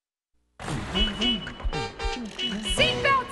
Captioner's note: horn honking